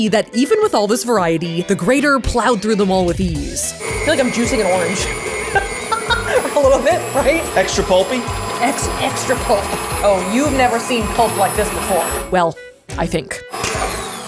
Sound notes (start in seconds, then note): 4.9 laughing; 5.7 mixer whirling; 9.0 mixer whirling